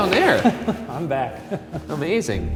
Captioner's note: chuckles